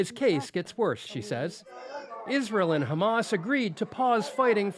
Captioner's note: speaking alternate language